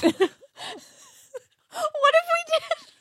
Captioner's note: laughs